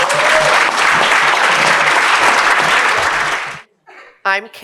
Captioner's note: applause